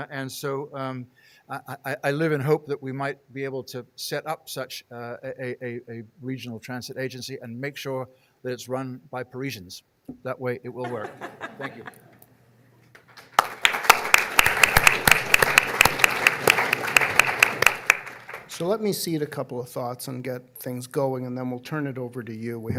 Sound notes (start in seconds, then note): 10.8 audience laughing; 12.9 audience applauding